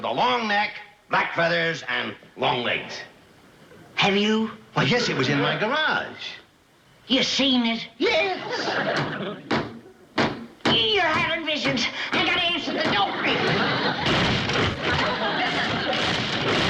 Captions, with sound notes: about so high with a long neck, black feathers and long legs. Have you? Why, yes, it was in my garage. -You seen it? -Yes! (banging continues) You're having visions. I got to answer the door!